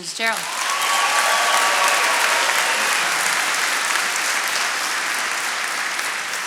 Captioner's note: attendees cheering and applauding